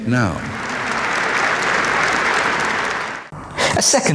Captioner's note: crowd clapping